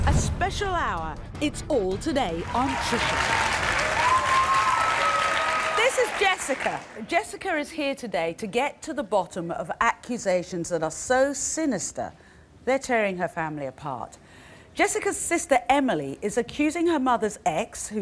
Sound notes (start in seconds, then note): 2.4 audience claps